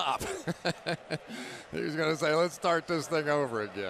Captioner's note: laughs